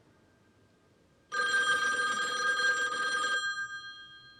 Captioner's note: phone ringing